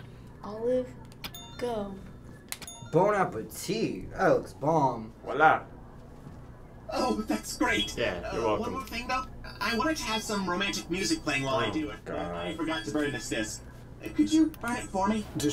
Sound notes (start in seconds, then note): 2.6 bell rings